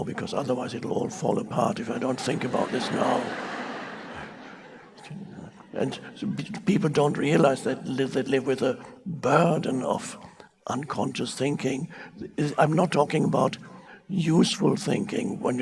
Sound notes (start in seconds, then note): 3.8 audience laughing